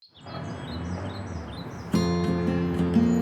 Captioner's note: birdsong; traffic noise; inspiring acoustic music